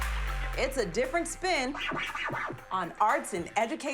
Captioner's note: deep bass music; record scratches